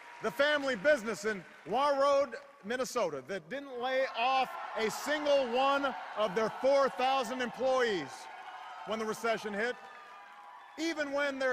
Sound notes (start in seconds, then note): 0.0 cheers; 2.3 isolated part of audience cheers